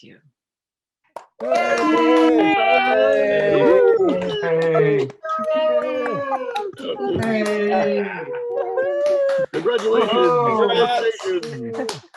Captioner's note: applauding, cheering